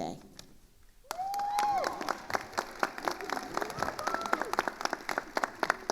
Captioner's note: attendees cheering and applauding